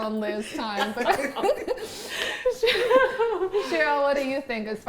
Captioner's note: all laugh